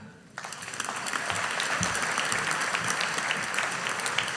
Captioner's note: audience applauding